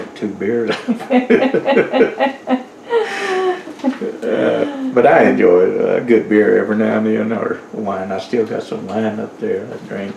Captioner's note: laughter